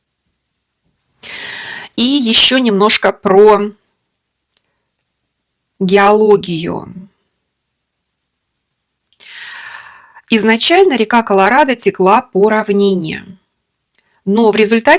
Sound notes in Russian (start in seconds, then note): 9.2 вздыхает; 9.2 тяжело вздыхает